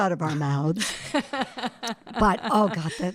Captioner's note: laughing